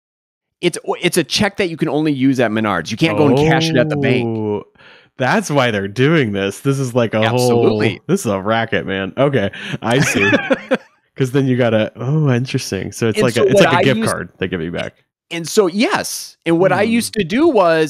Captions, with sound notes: It's a check that you can only use at Menards, you can't go and cash it at the bank. - Oh. That's why they're doing this, this is like a whole. - Absolutely. - This is a racket, man. Okay, I see. (laughing) Because then you gotta, oh, interesting. So it's like a gift card they give you back. - And so, yes, and what I used to do was,